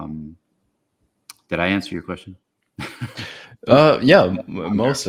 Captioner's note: laughs